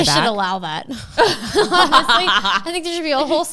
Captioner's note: laughs